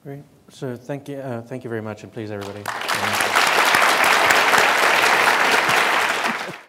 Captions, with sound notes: - Great, so thank you very much, and please, everybody. (applause)